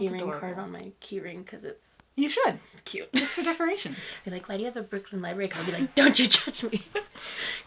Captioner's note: laughs